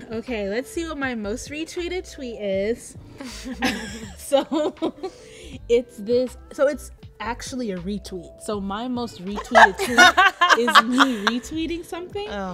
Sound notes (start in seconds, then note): 3.2 laughs; 3.4 all giggling